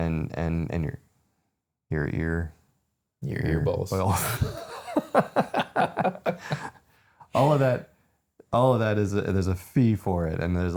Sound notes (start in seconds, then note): 4.0 both laughing